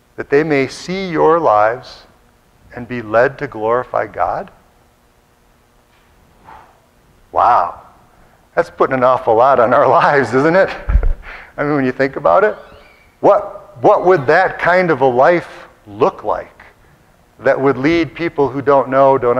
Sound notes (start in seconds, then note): 10.5 laughs